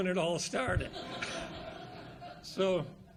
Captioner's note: audience laughs